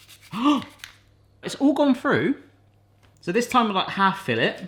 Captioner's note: gasps